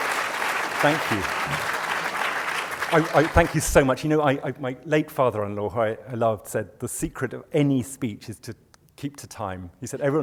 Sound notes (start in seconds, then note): 1.2 voiceover